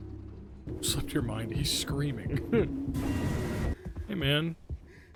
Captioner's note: laughs